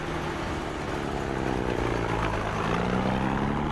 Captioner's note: jeep rumbling